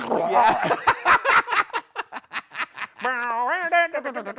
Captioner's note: yelping; both laughing; both humming song